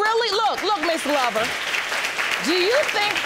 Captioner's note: audience applauding